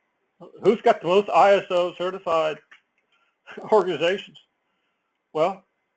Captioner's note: laugh